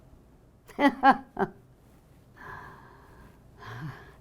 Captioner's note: laughing